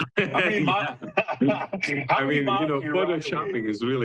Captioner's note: both chuckling